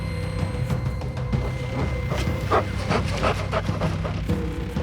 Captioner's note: animal pants